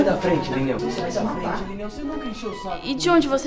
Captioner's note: voices rising in disagreement